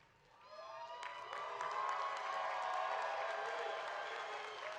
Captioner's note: graduates cheering